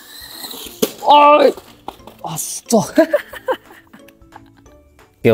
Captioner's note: laughs